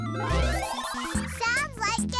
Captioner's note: electronic bleeping